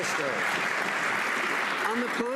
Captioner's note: some Applause